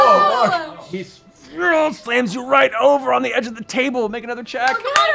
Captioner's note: groans